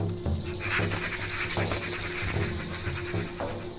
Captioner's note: vulture squawking